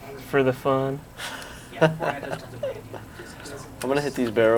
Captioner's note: player laughing